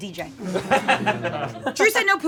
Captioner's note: audience laughing